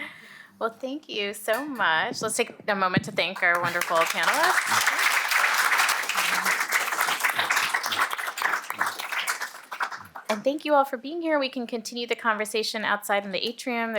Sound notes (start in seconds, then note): 3.4 applause